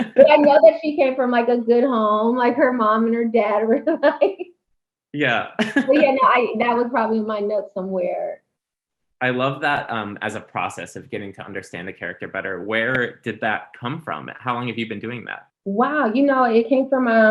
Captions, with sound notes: and the other came from Michael's good home like her mom and her dad. (laughing) That was probably my notes somewhere. - I love that as a process of getting to understand the character better. Where did that come from? How long have you been doing that? - Wow. You know, it came from